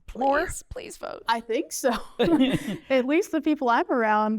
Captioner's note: laughter